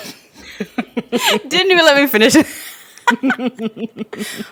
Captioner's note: both laugh